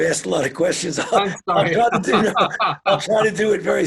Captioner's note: both laugh